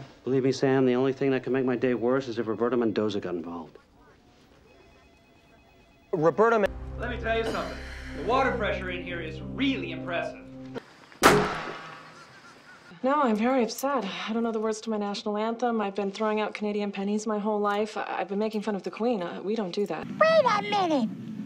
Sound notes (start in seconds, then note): 11.2 bang